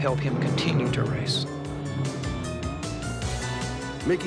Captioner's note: engine roars